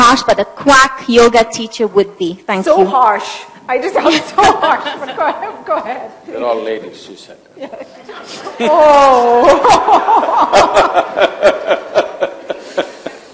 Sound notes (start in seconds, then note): 6.6 laughs; 12.0 laughter